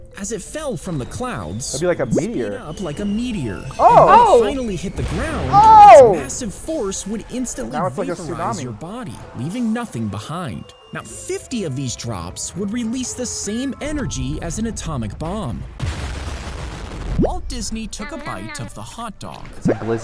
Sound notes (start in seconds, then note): 15.9 explosion bangs